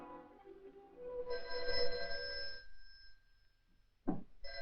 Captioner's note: phone rings